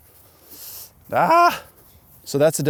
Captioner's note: screams